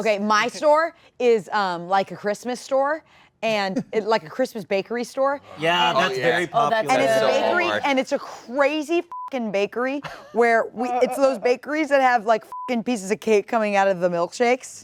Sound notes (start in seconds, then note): 5.5 overlapping compliments